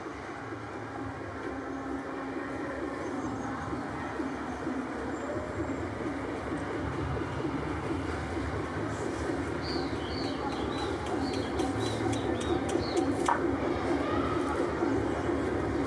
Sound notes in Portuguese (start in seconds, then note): 9.7 pássaros; 13.6 vozerio distante de crianças